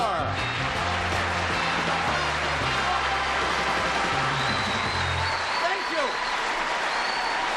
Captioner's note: applause